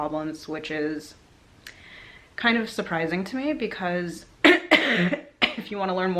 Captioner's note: cough